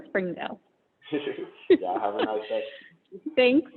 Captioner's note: laughs